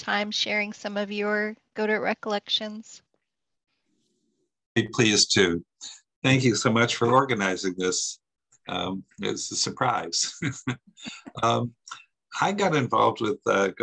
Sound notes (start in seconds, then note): 10.2 laughs